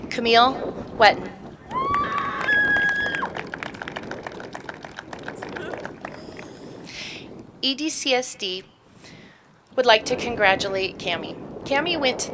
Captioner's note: applause